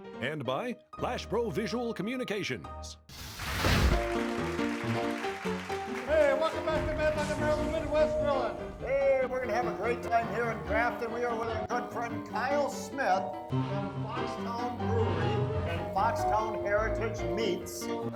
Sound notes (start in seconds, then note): 3.9 audience clapping; 4.1 blues music